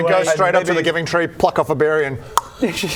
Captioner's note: nom